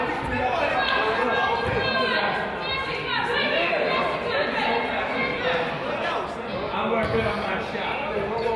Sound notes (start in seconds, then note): 0.0 crowd yells; 0.9 coach yells